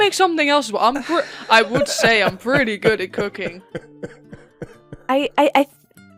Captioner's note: laughter